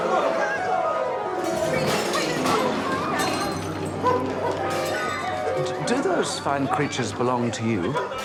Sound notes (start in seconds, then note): 1.3 dramatic music; 3.0 objects clattering